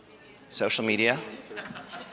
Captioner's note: audience chatters